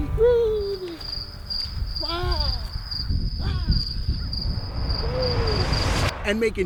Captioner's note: crickets chirping